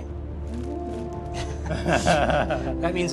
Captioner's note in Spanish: Risas